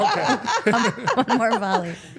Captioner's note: Steph laughing